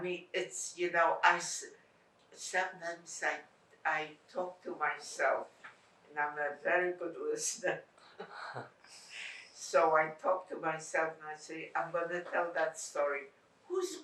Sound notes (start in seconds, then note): 8.1 laughing